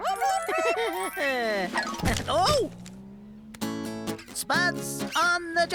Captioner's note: laughing